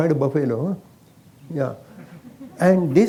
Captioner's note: few laugh